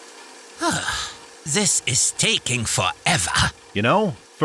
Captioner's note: sighs